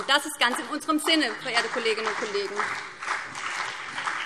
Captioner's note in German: Beifall BÜNDNIS 90/DIE GRÜNEN und CDU